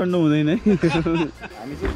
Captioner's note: laughter